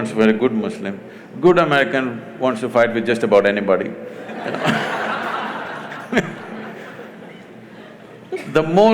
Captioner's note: laughter